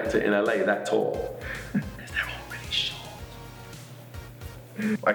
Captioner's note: whispering